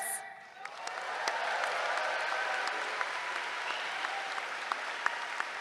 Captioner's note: cheering